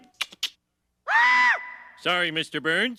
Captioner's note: scream